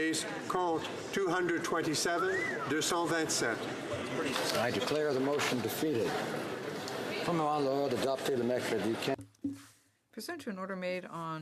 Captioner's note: speaking French